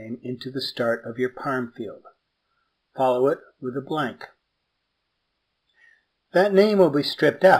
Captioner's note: pause